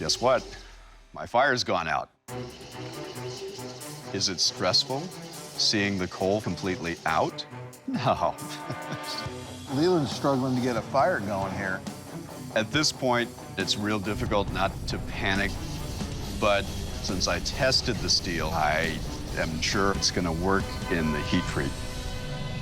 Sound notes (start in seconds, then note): 7.8 chuckles